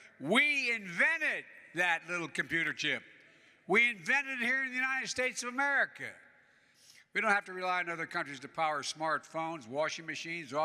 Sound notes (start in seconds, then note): none